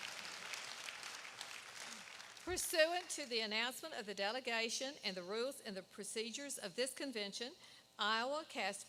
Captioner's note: applause